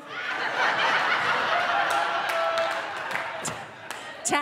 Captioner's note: audience laughing